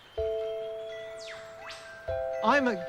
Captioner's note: birdsong